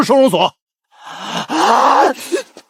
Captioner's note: gasp